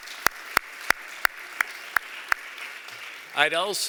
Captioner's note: applause